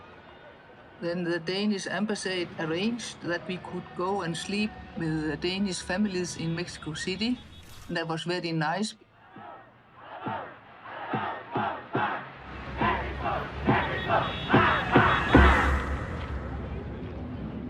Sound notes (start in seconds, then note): 10.1 thudding, chanting; 12.4 crowd chants; 15.1 chanting stops, reverberates